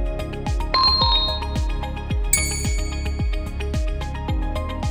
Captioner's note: bell chimes gently